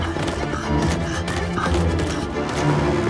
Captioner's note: giant grunting